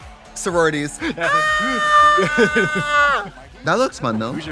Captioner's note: both squealing